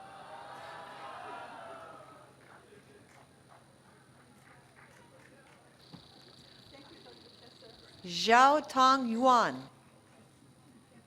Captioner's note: applause